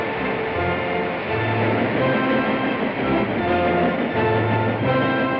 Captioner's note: train chugging; epic music